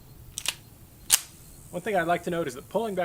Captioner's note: clicking